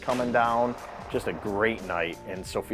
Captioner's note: gun firing